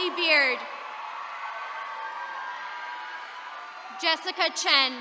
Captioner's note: attendees cheering